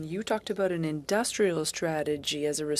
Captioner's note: speaking French